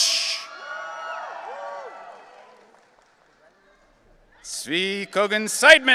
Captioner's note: audience cheering